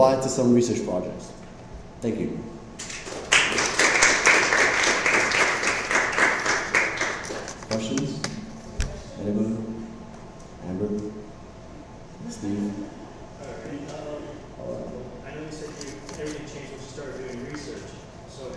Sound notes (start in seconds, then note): 2.8 applause